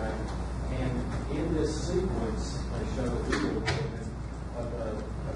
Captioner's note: none